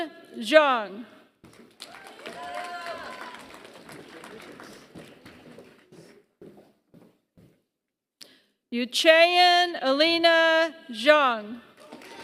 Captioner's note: applause; applause